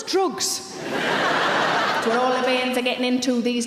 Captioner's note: audience laughs